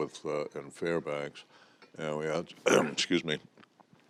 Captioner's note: clears throat